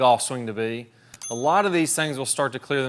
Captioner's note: bell dinging